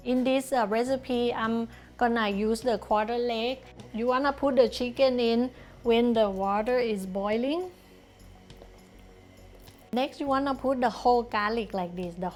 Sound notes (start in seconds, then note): 7.9 water boiling